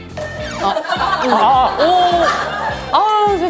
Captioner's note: munching until the very end